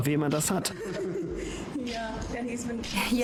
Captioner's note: Meghan and Harry laugh